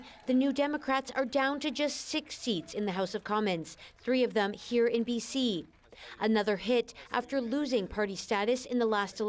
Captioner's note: cheers and applause